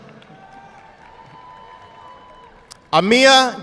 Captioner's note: audience clapping